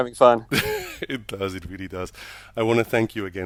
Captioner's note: laughs